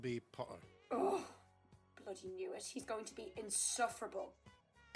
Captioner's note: Marlene groans